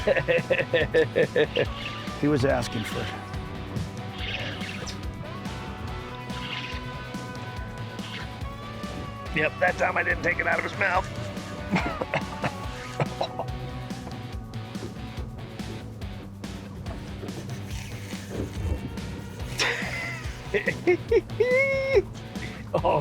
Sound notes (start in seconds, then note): 0.0 anglers laughing; 17.0 rod screeches; 19.3 laughing